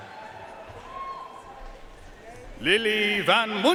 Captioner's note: audience cheering and applauding